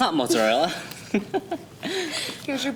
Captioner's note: laughs